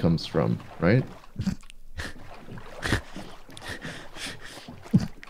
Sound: snickering realization

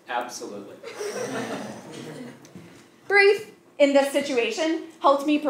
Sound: laugh

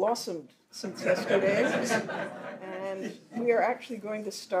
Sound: audience laughs

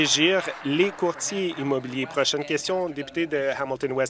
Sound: some Applause

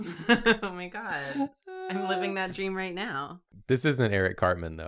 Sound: chuckles

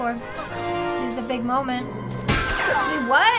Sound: Rabbid crashes

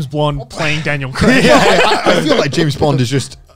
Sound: everyone laughs

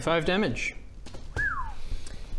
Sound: low whistle

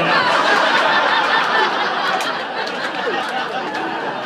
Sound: raucous laughter

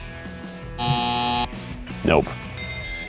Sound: buzzer

